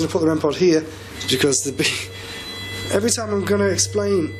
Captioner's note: machine beeping